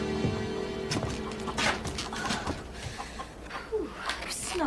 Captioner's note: chickens clucking